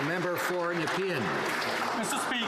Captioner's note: some Applause